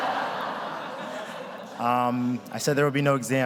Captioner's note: chuckles; audience laughs